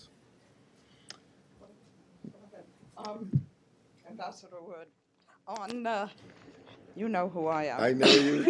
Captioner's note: laughter